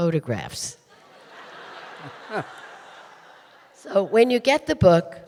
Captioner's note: audience laughing